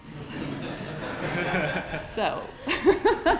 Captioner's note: laughter